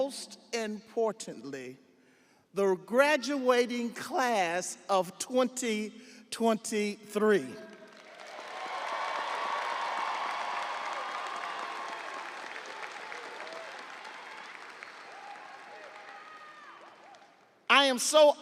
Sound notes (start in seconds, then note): 13.3 audience applauding; 13.3 audience cheering